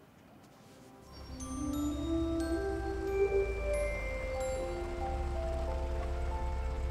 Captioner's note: bright music; engine humming